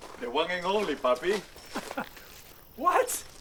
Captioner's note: laughs